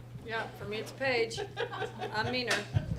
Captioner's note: laughs